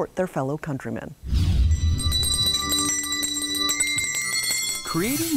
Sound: bells ringing

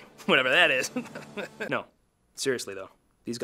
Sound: laughs

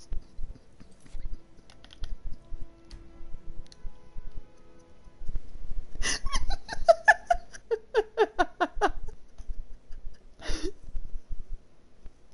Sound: laughs

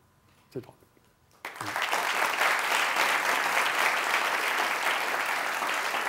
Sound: applause

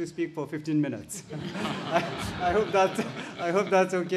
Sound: audience laughs

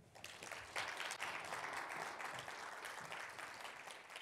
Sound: attendees applauding

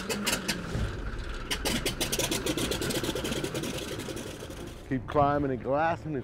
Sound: engine starting

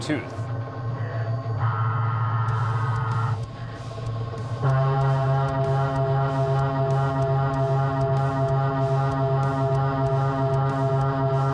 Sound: machining noises

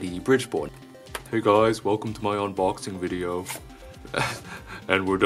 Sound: chuckles

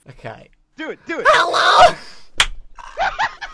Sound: poor imitation of Freddy's voice

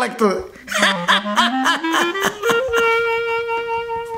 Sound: Appachan laughs

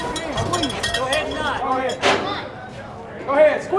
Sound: men chattering

